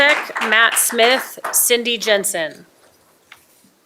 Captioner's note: applause